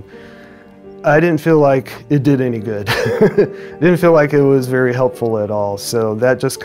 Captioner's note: chuckles